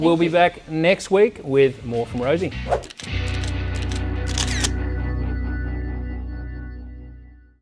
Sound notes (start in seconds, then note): 1.8 upbeat music; 4.4 camera clicks